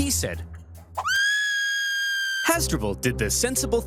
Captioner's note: Hasdrubal screams